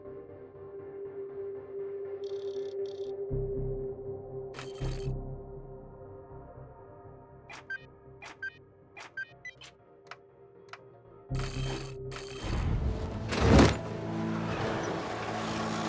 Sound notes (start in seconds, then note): 9.0 beeping; 10.7 suspenseful music